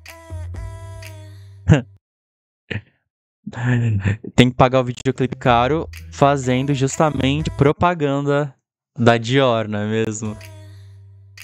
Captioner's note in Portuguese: risos